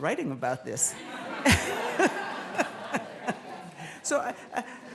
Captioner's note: laughter